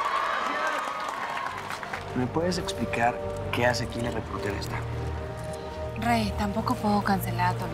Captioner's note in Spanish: Aplauden